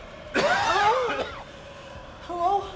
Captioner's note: coughing